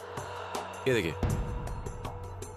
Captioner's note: speaking in foreign language